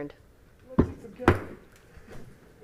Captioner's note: gavel hitting dais; silence